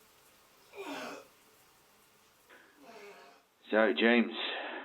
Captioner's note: heaving